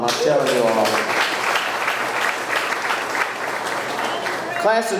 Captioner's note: audience clapping